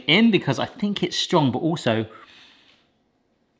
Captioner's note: sniffs